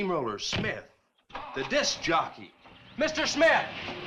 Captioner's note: engine cranks